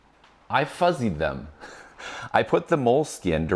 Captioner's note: laughs